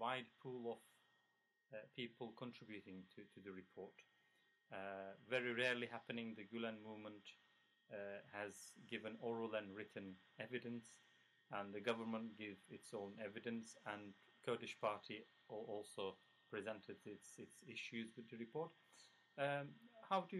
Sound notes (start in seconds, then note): 10.9 Turkish